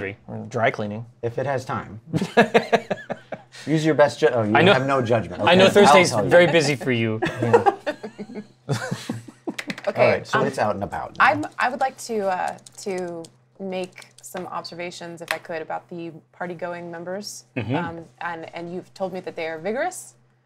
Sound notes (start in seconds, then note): 2.1 laughter; 7.2 laughs